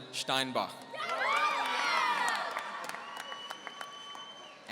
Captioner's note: audience cheering